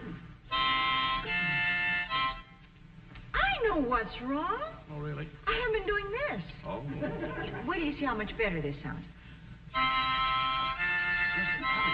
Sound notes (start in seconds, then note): 2.7 bad harmonica music; 8.8 audience chuckling